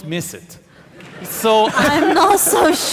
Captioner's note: audience laughing